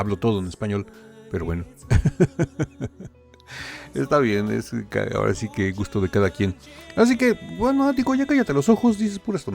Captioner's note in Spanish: risas